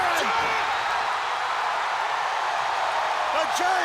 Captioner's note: audience cheering